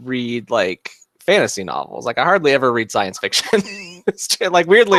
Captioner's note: laughs